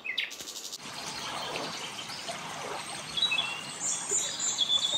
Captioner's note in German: Wasser plätschert